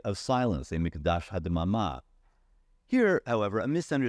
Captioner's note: speaking in foreign language